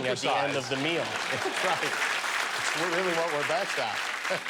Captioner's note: laughter